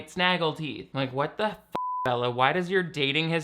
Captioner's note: beep